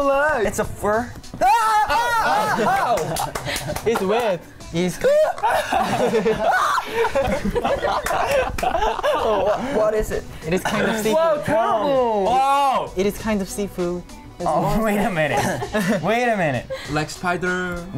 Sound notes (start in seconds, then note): 0.6 woman laughing; 1.4 screams; 2.8 clapping; 5.0 laughing; 6.2 exclaims; 6.4 screams; 7.9 laughing